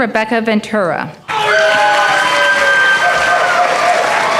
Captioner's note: applause